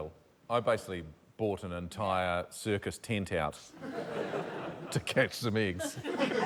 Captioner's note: laughter